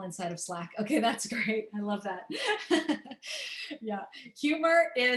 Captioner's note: laughter